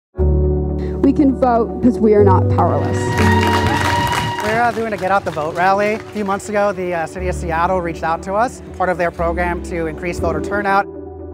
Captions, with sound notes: [hopeful music] - We can vote because we are not powerless. [crowd cheers] - We are doing a get out the vote rally. Few months ago, the City of Seattle reached out to us, part of their program to increase voter turnout.